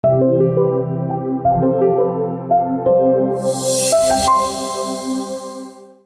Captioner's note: logo swoosh; upbeat music